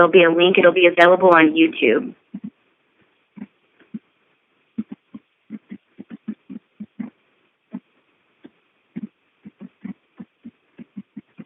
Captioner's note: silence